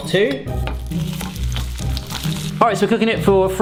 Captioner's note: spam sizzling